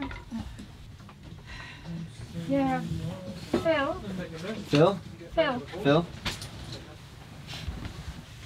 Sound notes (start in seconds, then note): 1.8 sighs